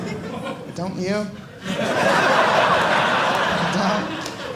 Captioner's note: audience laughing